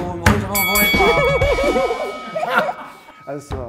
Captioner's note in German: Gelächter